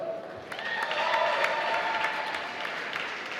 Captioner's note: applause